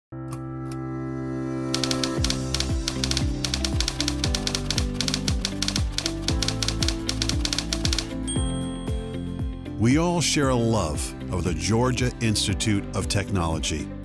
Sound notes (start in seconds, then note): 0.0 upbeat music; 4.9 typewriter sounds